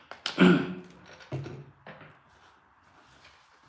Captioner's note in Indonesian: berdehem